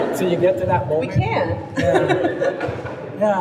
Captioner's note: laughs